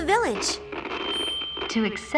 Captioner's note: speaker static